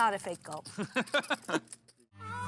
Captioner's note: laughs